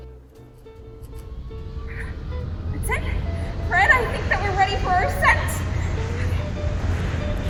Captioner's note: engines whirring